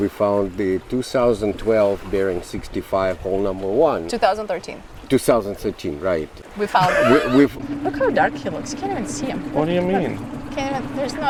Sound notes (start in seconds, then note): 6.8 laughs